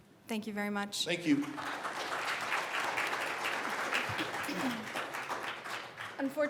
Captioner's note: applause